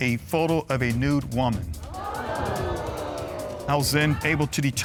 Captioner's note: audience gasping